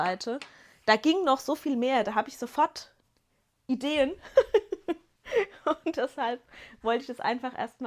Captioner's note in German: gelächter